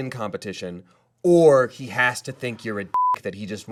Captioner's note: beep